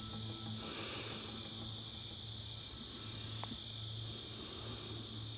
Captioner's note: heavy breathing